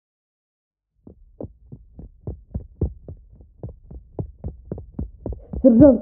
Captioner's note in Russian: Звук бега за закрытой дверью